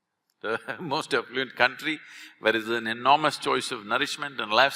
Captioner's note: laughs